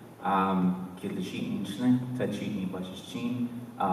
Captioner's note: speaking dene